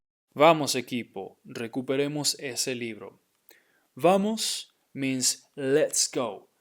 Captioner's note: speaking in Spanish